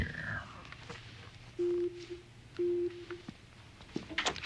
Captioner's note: beep beep